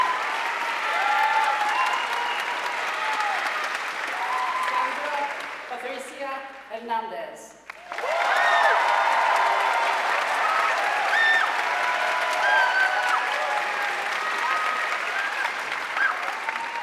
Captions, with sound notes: Sandra Patricia Hernandez (audience cheering and applauding)